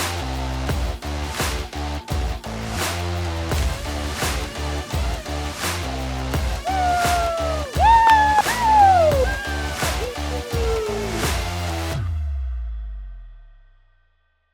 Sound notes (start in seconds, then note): 0.2 lively music continues; 6.5 contestants cheering